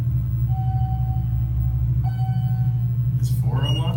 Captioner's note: elevator Chimes